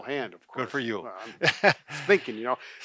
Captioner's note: laughs